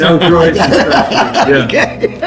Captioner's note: all laughing